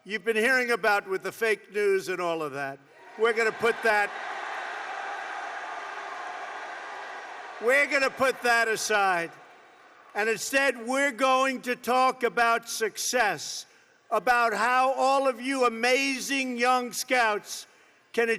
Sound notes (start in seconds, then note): 3.6 applause